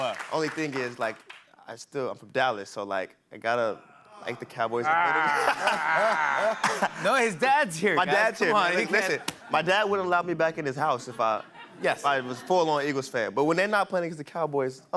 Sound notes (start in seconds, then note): 4.7 groaning